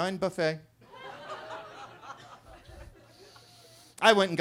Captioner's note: attendees laughing